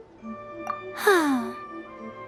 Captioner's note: sigh